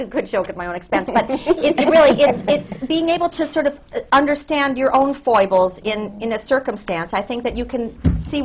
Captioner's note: laughter